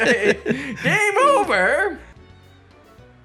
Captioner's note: laughs